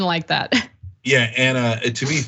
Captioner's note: laugh